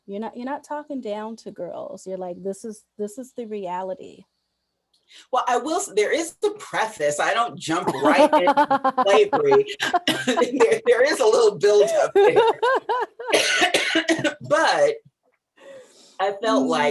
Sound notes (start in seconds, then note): 12.6 coughs; 12.6 laughs